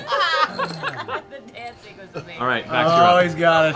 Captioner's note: laughter